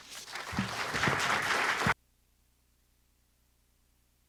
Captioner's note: audience applauding